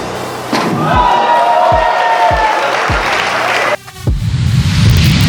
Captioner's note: spectators applauding